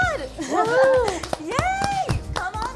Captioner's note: clapping and cheering